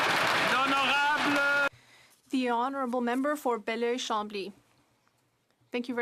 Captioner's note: applause